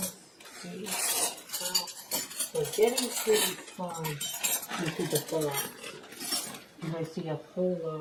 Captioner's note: flatware clinking